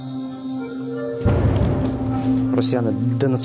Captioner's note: sound of explosion